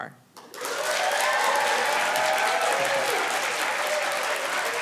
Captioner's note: cheering, applause